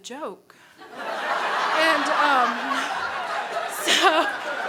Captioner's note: crowd laughs